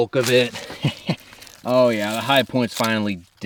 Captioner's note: chuckles